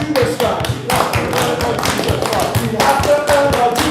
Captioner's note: clapping